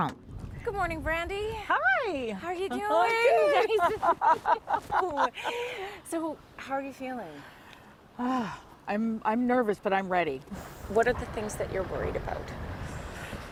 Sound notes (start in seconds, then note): 7.1 laughter